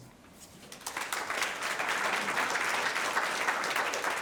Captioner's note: audience clapping